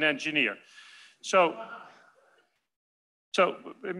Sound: laughter

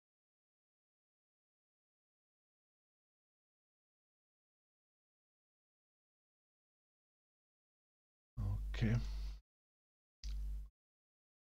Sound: silence - cleaning the story river

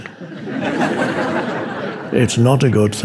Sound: audience laughing

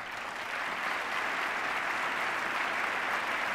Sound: applause

